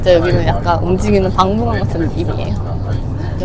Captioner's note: laughs